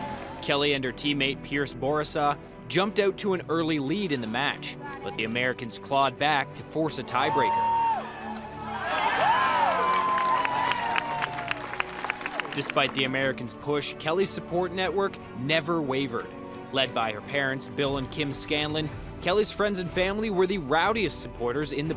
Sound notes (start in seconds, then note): 7.1 cheering; 8.9 clapping